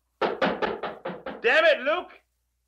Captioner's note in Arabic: طرق الباب